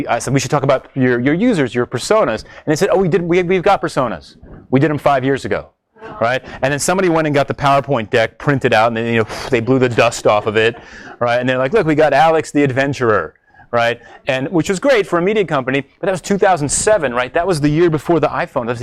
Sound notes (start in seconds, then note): 9.8 blows